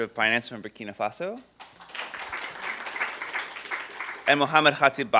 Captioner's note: applause